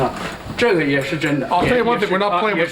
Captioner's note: non-english speech